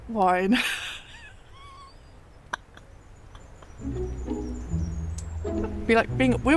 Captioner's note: laughing at my own nonsense